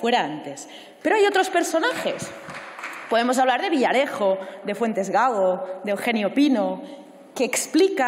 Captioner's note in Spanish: Aplausos